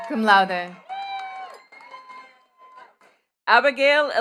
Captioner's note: attendees cheering and clapping